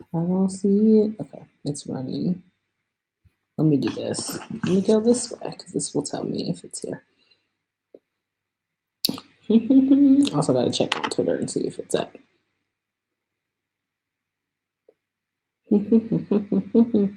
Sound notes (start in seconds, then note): 7.3 hums